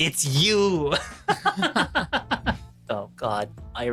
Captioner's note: laughing